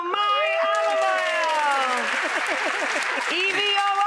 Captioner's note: audience claps